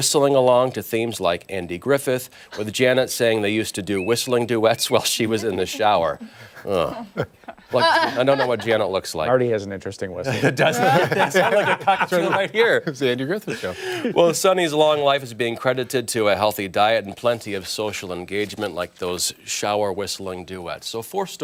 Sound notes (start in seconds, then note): 10.3 laughter